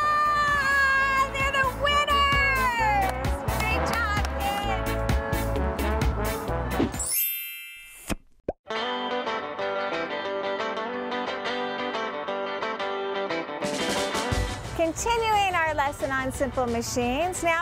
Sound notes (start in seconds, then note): 7.0 chime; 9.6 upbeat music